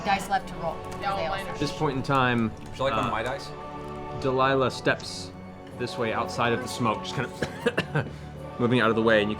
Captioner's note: coughs